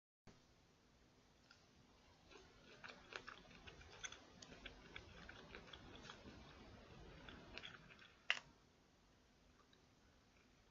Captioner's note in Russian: Аппетитно жует кукурузку